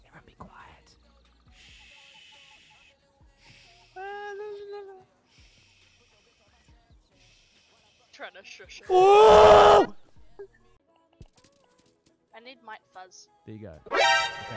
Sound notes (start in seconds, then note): 1.6 shushes; 8.9 screams